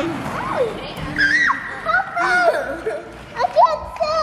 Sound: screams

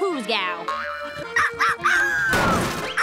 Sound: barking

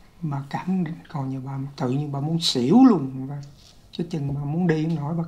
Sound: speaking foreign language

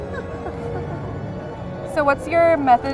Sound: laughs

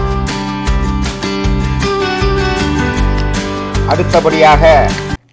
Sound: clap

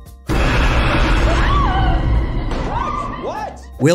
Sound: screaming

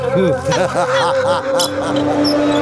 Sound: laughs

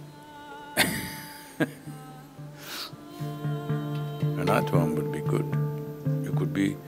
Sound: laughs

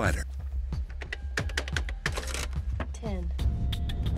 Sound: calculator rolling

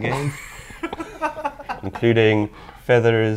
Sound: laughing

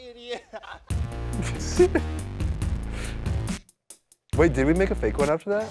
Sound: laughs; intense music

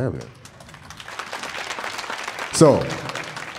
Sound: audience applauding

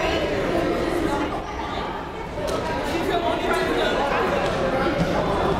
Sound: crowd and players communicating

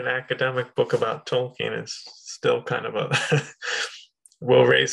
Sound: chuckles

